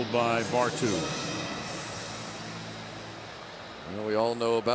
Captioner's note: pa announcement